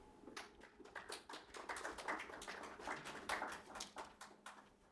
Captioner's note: audience clapping